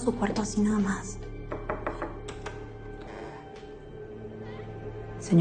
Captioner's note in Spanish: Toques en la puerta